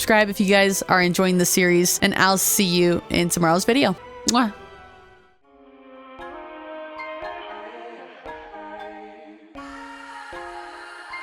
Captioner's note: kiss